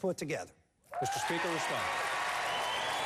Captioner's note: applause